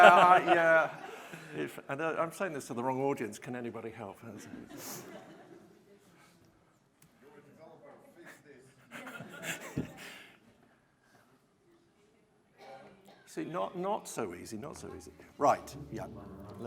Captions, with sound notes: I'm saying this to the wrong audience, can anybody help. (murmuring) See, not so easy, not so easy. Right, yeah.